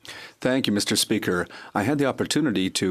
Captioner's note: speaking French